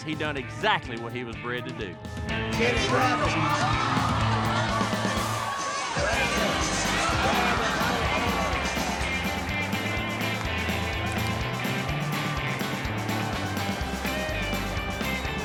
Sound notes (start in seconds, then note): 3.5 crowd gasps